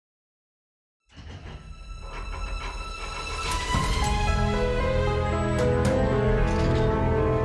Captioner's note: vault door rattling; pensive music